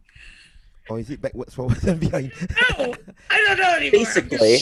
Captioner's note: laughs